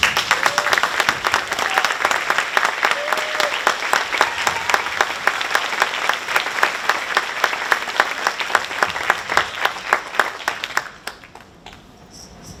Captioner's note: applause